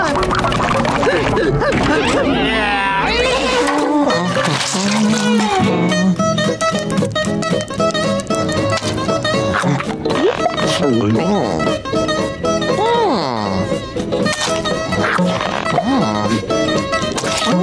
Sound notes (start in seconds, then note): 3.5 humming